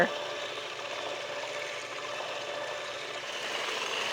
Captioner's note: mixer whirring